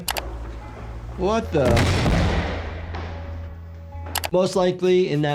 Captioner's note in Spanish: portazos